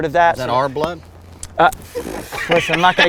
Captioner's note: group laughs